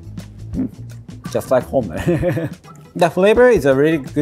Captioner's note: chuckles